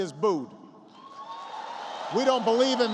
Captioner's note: applause